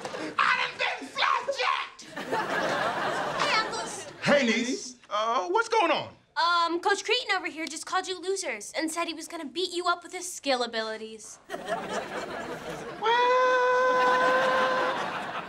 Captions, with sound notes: I done been flapjacked! [laughing] - Hey, uncles. - Hey, niece. Er, what's going on? Um, Coach Kreeton over here just called you losers, and said he was gonna beat you up with his skill abilities. [laughing] What?